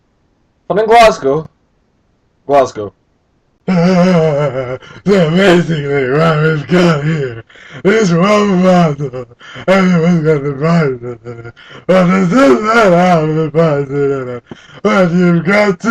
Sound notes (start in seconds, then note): 3.6 sobs uncontrollably